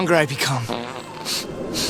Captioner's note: A loud fart can be heard in the distance